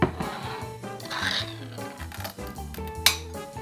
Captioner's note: metal lid peeling